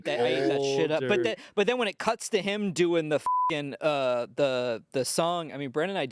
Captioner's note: beep